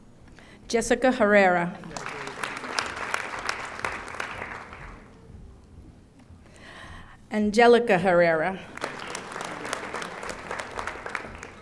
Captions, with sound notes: Jessica Herrera. (audience applauding) Anjelica Herrera. (audience applauding)